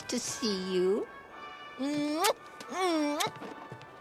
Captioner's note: kisses